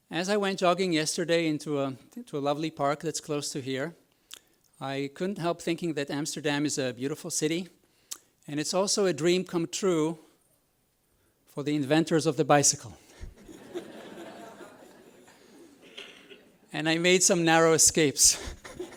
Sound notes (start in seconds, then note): 13.2 audience laughs